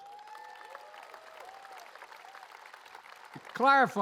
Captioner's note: applause